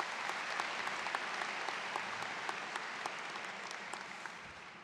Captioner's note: students clapping